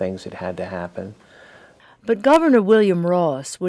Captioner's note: voiceover